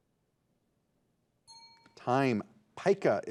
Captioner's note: bell rings